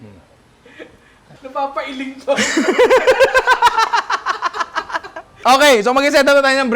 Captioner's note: laughter